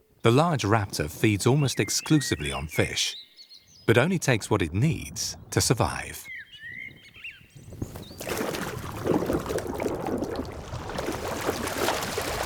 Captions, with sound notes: The large raptor feeds almost exclusively on fish, but only takes what it needs to survive. (water sloshing)